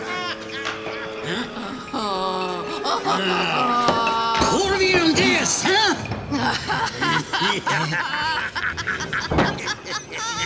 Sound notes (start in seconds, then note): 0.0 woman laughing; 4.5 Petronius speaking foreign language